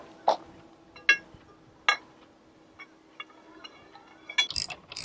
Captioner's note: rod clangs